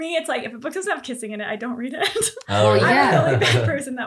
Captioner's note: giggles